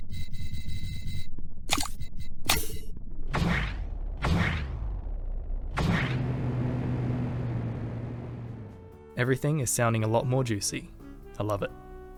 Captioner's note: various sound effects